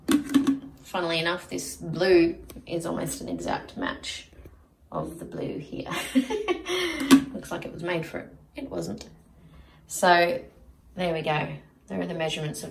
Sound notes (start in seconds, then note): 0.0 plastic clunks; 5.8 laughs; 7.0 plastic clunks